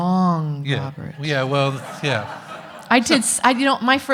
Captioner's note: audience laughing